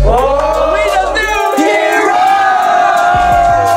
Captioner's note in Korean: 환호